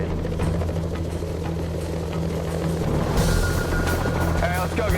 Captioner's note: sound of helicopter rotors